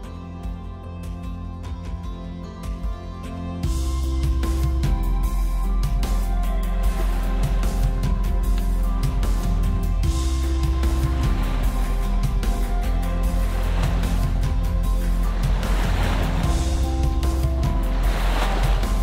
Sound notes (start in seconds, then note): 3.9 inspiring music; 7.6 waves crashing